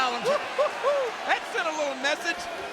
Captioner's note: King laughs